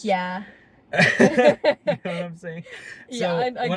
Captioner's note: laughing